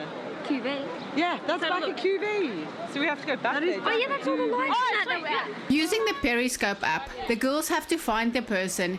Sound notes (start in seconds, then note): 5.8 narrating